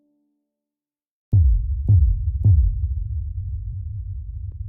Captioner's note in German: Übergangsgeräusch